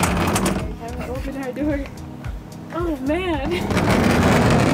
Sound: laughs

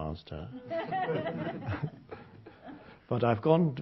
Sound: audience laughter

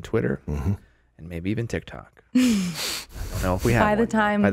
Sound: chuckles

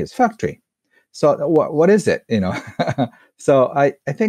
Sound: laughs

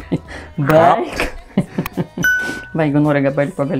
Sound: laughs in Lithuanian

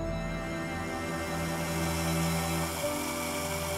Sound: sound of hose watering plants

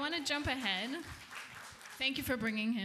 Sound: applause

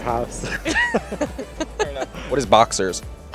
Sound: laughter

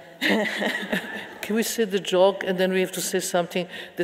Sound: laughing

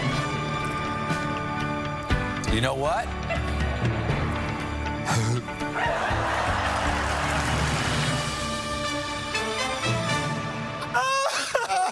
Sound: laughter

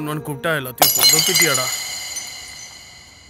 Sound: cup shatters

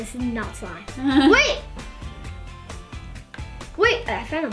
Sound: laughs

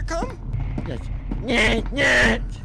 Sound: alien speech

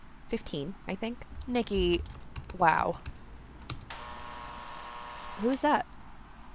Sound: the apartment door intercom buzzes

